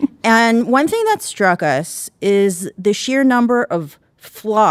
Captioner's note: none